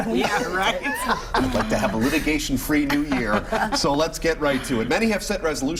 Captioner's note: laughter